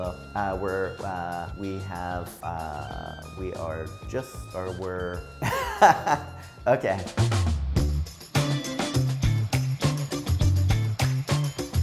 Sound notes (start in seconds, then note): 5.4 laughing; 7.8 funk music playing